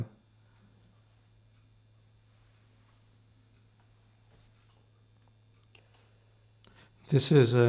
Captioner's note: pauses 6 seconds